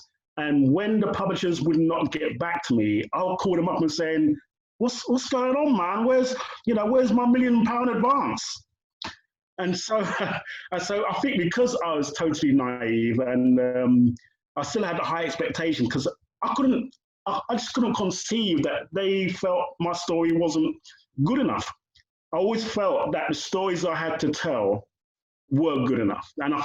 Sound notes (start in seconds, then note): 10.0 laughter